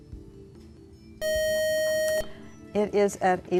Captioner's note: loud buzzer